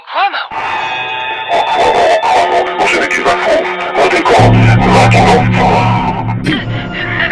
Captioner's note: quiet Laughter